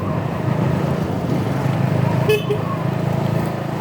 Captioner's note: honk